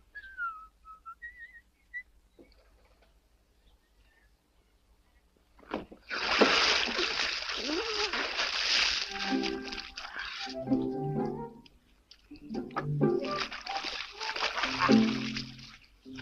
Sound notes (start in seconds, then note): 5.6 water splashes; 10.2 playful orchestral music; 12.0 water splashes